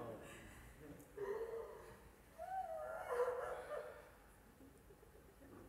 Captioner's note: Geräusch einer heulenden Frau